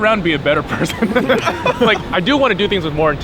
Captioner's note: all laugh